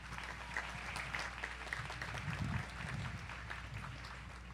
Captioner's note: audience applauds